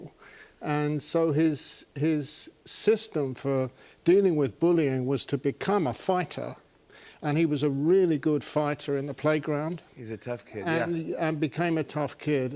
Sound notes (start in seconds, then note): none